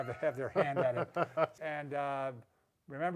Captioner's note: chuckles